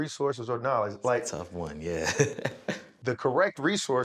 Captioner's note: laughs